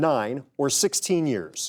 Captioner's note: contestants whispering